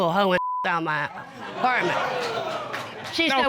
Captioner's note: audience exclaims